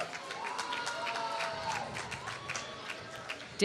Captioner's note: applause